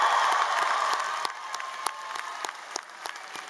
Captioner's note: cheering